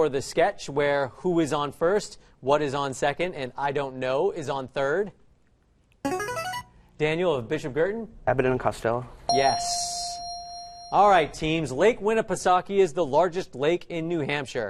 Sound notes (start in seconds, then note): 6.1 answer bell; 9.3 correct answer chime